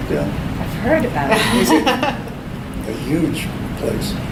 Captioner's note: laughs